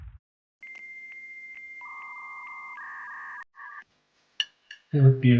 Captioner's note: modem humming